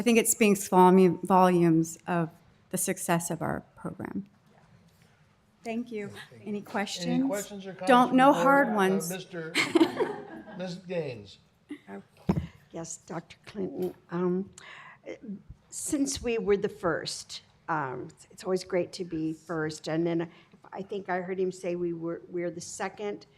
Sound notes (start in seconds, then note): 9.5 laughter